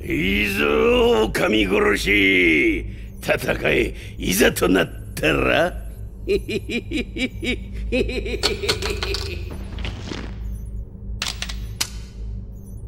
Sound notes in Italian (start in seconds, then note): 6.2 ridendo